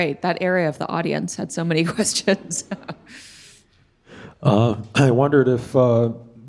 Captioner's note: chuckling